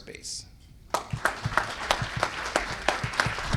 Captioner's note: applause